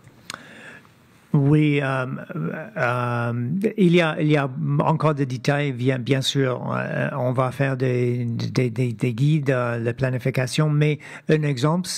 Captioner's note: speaking French